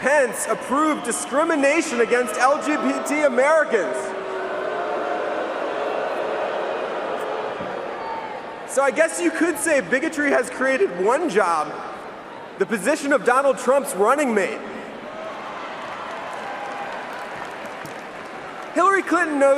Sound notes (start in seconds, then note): 11.4 booing